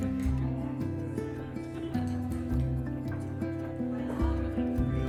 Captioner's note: guests talking